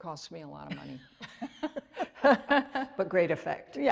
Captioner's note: laughter